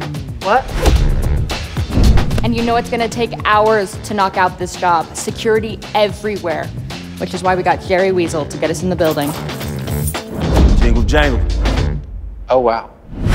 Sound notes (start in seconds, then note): 9.0 keys jingling